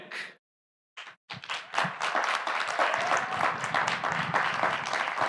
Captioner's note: audience applauding